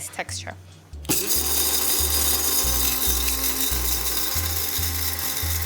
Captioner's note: spice grinder whirring